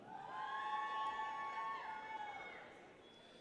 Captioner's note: people cheer